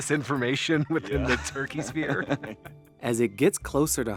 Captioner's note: both laughing